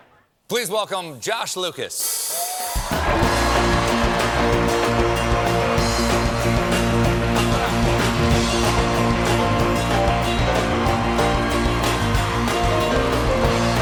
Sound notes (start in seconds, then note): 2.3 cheers and applause